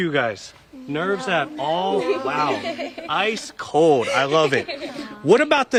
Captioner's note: laughter